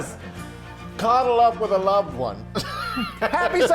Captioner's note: laughing